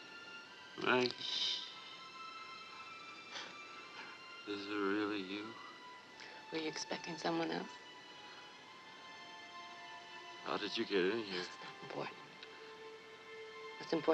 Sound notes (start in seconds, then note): 2.1 shushing